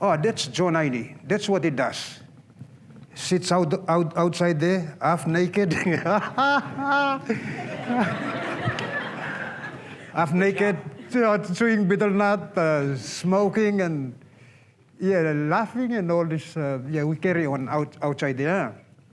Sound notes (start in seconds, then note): 5.7 laughter